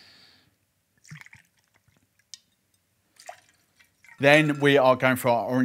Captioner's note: pouring liquid